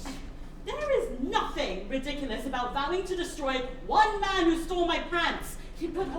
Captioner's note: scoffs